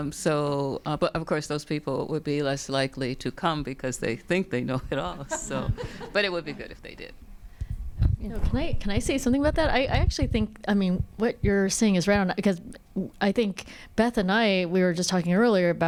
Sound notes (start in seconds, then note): 5.1 audience laughs